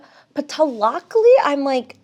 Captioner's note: speaks in foreign language